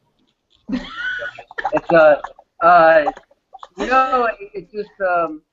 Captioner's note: group laughing